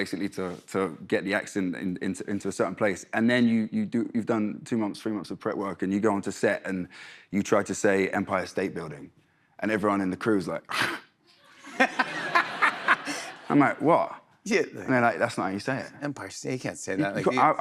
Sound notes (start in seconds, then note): 11.1 scoffs; 11.6 laughter